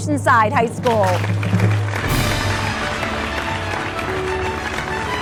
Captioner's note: crowd clapping and cheering; fast, upbeat music